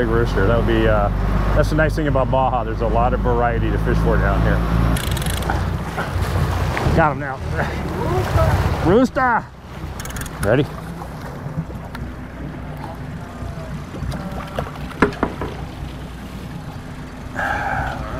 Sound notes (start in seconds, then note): 5.0 cranking; 6.5 water splashing; 9.0 chuckles; 11.5 cranking; 13.4 splashing; 17.3 heavy breathing